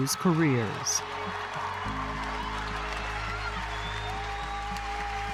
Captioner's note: crowd cheering